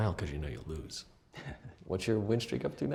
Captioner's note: chuckles